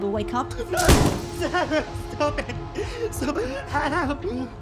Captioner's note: pipe thuds